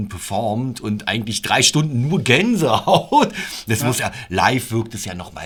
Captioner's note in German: Lachen